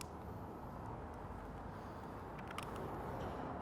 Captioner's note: egg cracking